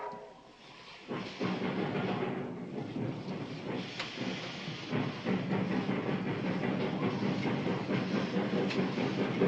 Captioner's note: train whistling; train rattling